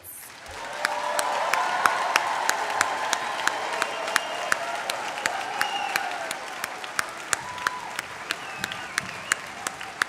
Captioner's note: applause